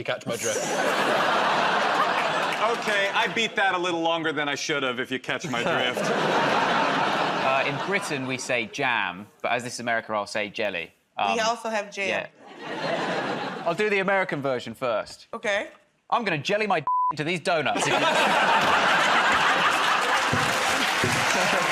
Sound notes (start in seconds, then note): 17.7 laughter